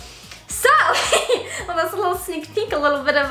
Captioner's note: laughs